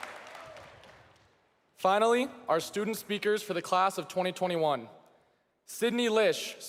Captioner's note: cheering and applause